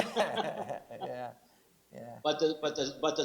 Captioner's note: laughs